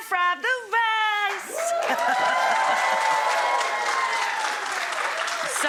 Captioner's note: audience applause